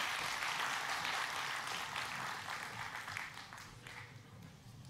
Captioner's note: audience applauding